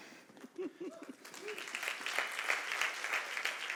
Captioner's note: applause